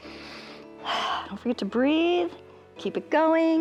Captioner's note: inhales and exhales